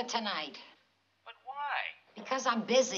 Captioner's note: on phone